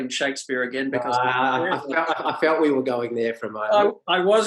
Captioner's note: laughs